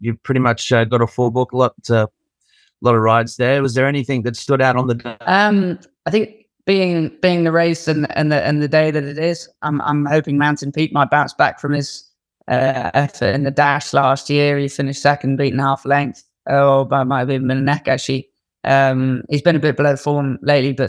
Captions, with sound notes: you've pretty much got a full book, a lot of rides there. Was there anything that stood out on the (audio breaks up)? - I think being the race and the day that it is, I'm hoping Mountain Peak might bounce back from his effort in the dash. Last year he finished second, beaten half length or by, might've been by the neck, actually. He's been a bit below form lately,